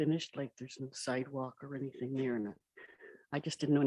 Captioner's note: murmurs